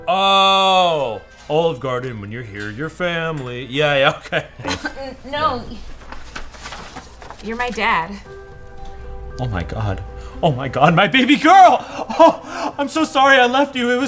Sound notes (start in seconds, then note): 4.0 laughs; 5.4 papers rustle; 7.4 piano music